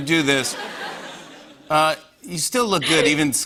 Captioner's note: laughter